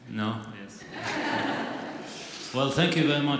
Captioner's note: audience laughs